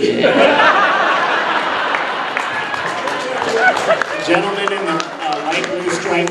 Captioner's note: audience laughing and clapping